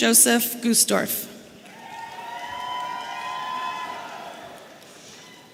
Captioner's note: audience cheering